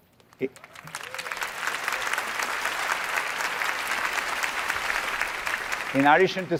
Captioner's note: applause